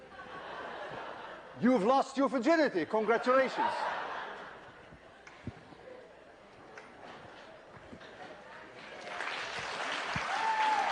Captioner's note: laughter